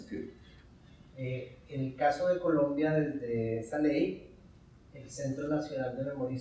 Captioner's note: speaking in Spanish